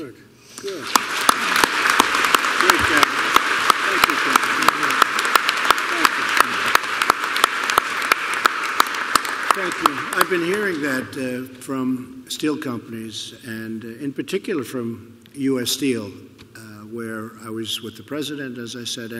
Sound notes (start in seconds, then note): 1.4 applause